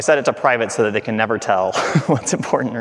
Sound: chuckling

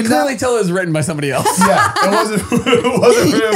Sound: they laugh

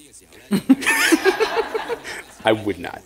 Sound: laughter

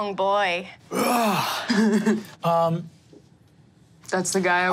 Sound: grunts masculinely

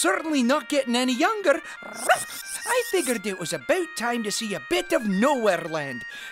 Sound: bark

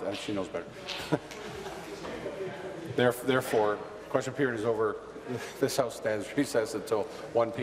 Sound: conversation din

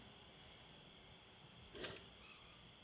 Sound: gate opens

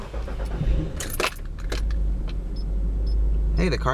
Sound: engine starts

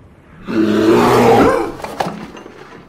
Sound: growls

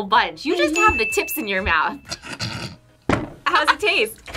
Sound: laughs

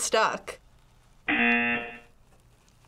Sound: buzzer

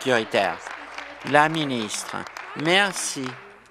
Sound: applause

